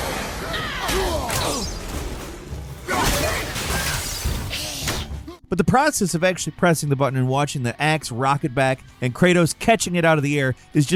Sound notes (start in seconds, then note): 4.3 all grunting